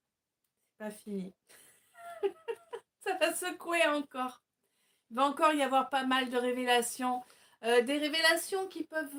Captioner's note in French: rires